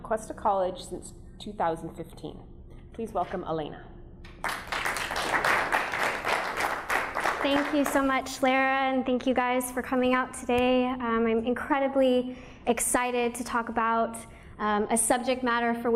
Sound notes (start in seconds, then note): 4.4 audience applauding